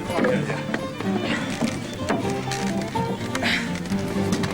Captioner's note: breathing heavily